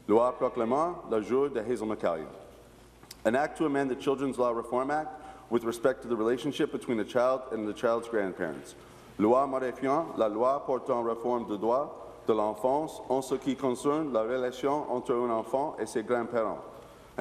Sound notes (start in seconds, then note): 0.0 speaking in french; 14.2 repeating in french